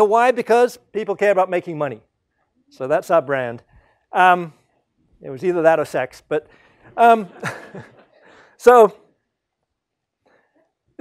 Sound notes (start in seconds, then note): 6.9 laugh